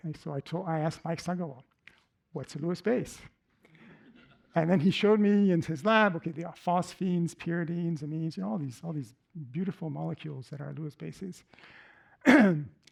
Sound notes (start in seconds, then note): 3.8 laughter